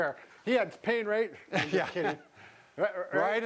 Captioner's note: man laughing